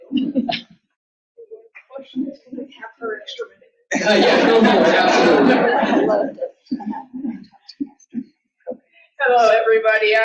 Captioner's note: laughter